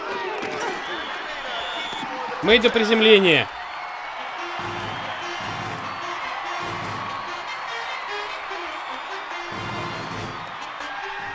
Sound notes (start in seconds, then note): 0.9 whistle blows; 4.1 crowd cheering; 5.4 marching band playing